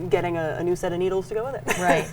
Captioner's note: laughs